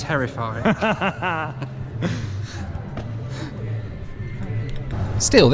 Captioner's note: camera man laughing